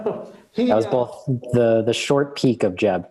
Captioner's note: chuckle